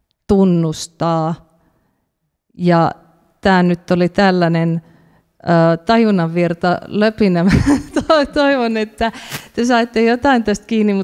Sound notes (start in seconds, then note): 7.2 laughs